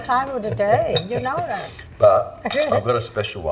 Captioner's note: laughs